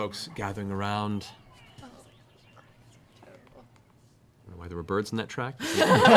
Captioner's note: birds tweeting; laughter